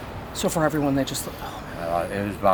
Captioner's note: sighs